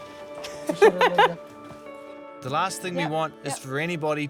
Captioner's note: laughs